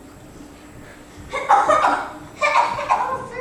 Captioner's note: violent coughing